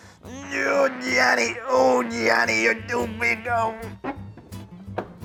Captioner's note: grunts